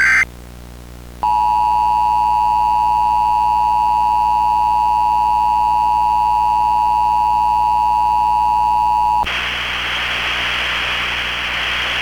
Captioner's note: dual tone 853hz and 960hz attention tone